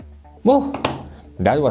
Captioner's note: tool clinks